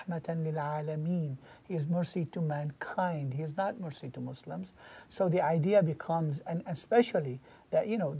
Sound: Arabic

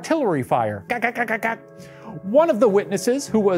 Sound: mimics machine gun firing

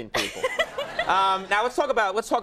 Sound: Ming-Na laughs; audience laughing

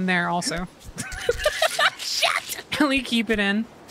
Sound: laughter

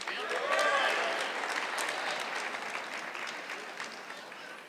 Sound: audience clapping

